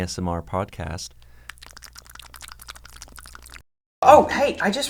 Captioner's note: lip smacking